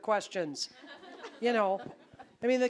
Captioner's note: audience laughing